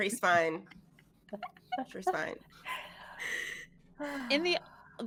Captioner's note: all laughing